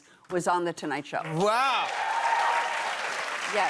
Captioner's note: cheers and applause